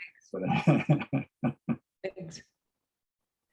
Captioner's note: laughs